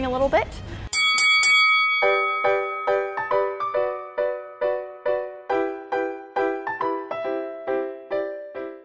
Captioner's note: ding Ding Ding Sound Effect